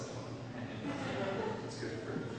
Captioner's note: laughter